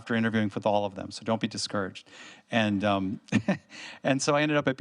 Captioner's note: laughs